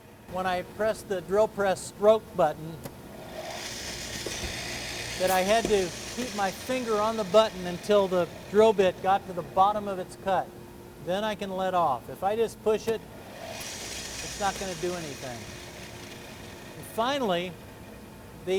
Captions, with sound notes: When I pressed the drill press stroke button... [drill bits whirring] that I had to keep my finger on the button until the drill bit got to the bottom of its cut, then I can let off. If I just push it, it’s not going to do anything. Finally,